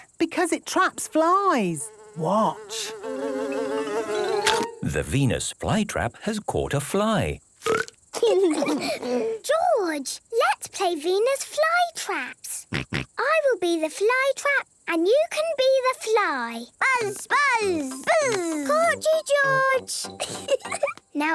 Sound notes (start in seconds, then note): 3.7 buzzing; 3.7 chomps; 7.6 burps